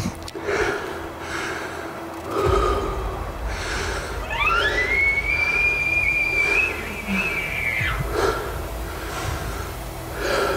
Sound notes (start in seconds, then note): 4.2 caller bugling